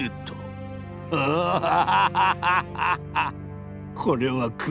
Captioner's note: laugh